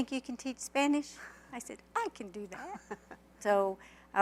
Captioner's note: laughter